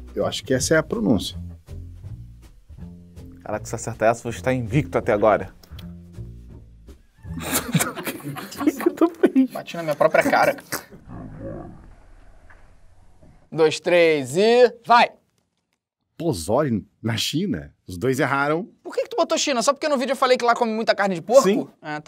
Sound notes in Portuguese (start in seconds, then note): 7.2 risadas